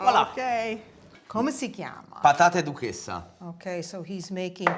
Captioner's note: speaking italian